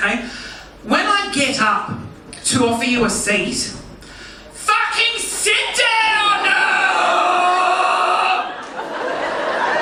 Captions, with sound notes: When I get up to offer you a seat, (yells) fucking sit down! (audience laughing)